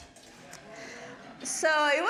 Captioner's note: audience laughing